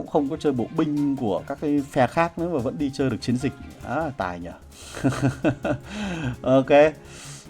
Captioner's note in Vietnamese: tiếng cười